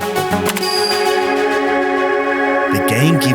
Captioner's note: electronic chimes